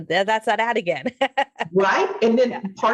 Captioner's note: laughing